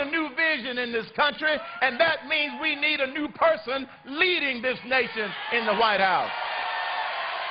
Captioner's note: cheers and applause